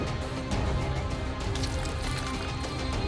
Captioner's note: squishing